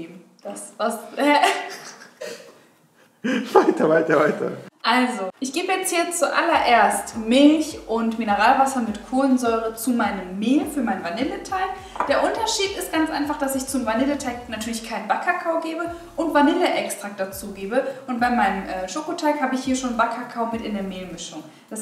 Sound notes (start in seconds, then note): 1.0 stammers; 3.2 laughing